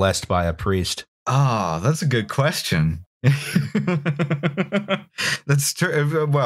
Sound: laughs

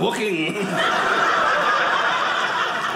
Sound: audience cheering

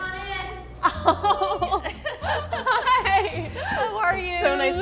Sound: laughs

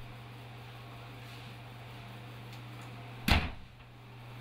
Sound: fan whooshing

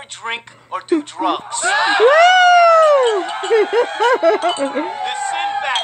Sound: shouting, clinking

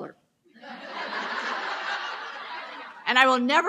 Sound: loud laughs

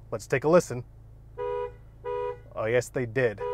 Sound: horn honking

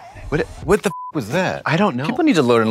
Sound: beep

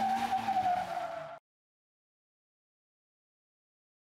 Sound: car brakes

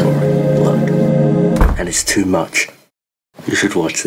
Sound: door closes

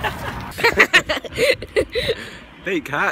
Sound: laughs

